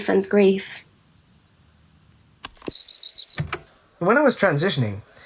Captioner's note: the tape whirrs, fast forwarding